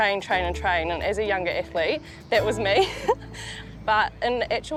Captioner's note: chuckles